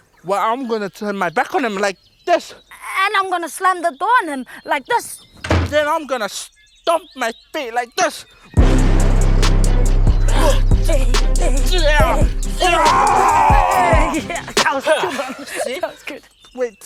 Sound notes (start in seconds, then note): 5.4 door slams; 8.6 intense hip-hop music; 11.4 grunts, growls; 14.3 laughs